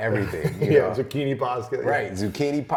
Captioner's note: laughs